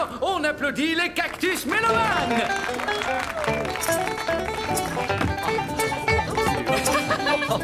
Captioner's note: applause